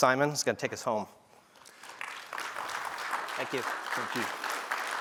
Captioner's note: applause